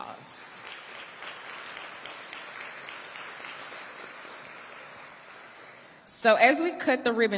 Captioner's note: audience applauding